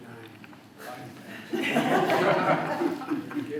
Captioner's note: laughter